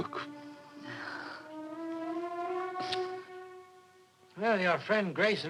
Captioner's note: Doris sighing